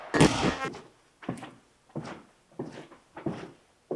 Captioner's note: static crackles